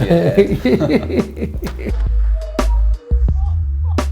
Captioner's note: laughs